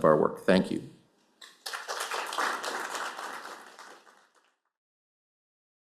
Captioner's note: applause